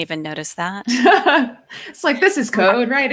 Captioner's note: laughs